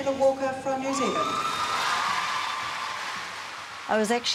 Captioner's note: crowd cheering